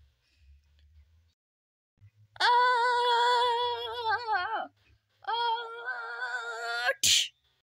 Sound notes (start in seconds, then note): 2.3 scream